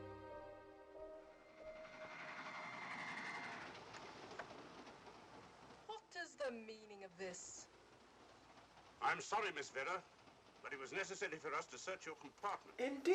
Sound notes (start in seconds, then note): 0.0 solemn music continues; 2.0 train chugging